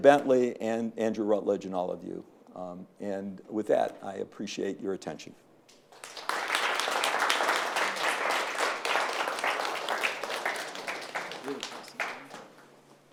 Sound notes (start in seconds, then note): 5.9 attendees applauding